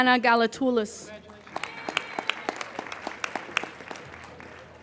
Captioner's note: applauding